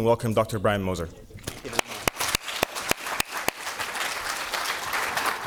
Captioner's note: audience applauding